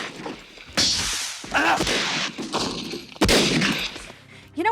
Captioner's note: weapons firing